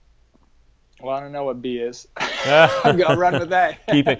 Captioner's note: laughs